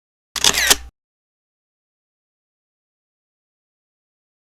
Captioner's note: camera lens snapping